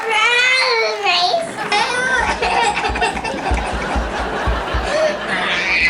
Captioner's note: cries, screams and thuds